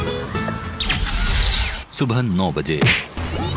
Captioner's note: BIG BOSS's VOICE